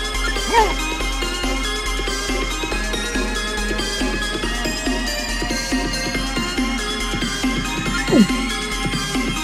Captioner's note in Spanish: Pide paz en Italiano